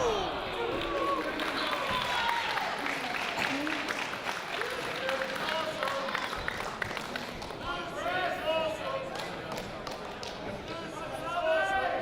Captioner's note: applause